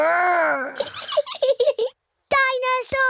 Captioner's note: giggles